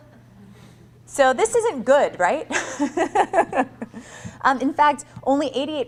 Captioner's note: laughing